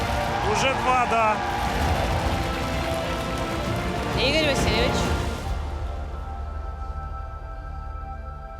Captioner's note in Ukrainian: оплески